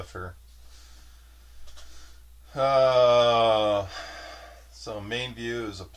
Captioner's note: sighs